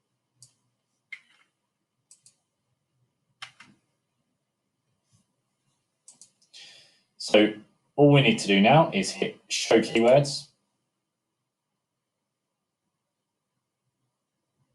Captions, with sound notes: (mouse clicking) (keyboard clicking) (mouse clicking) So all we need to do now is hit, show keywords.